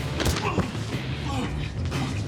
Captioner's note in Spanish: Golpes